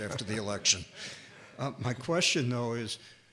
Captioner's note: scattered laughing